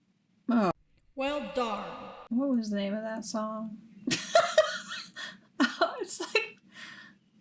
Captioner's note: laughing